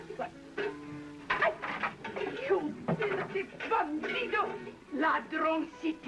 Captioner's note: speaking Spanish